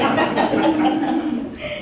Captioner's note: laughter